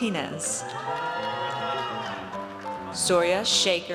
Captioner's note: audience cheers